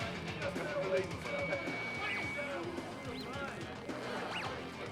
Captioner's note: talking